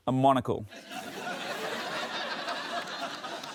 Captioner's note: laughter